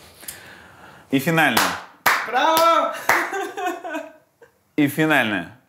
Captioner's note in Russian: хлопает себе